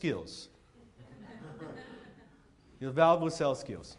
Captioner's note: audience laughs